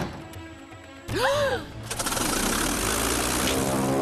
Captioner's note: gasps